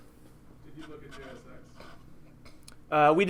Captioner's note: voiceover